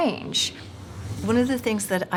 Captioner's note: whooshing